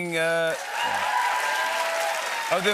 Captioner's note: cheers and applause